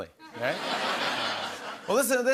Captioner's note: laughter